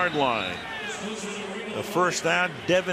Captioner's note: pa announcement